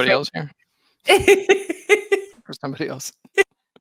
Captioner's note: laughing